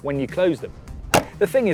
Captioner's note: clunk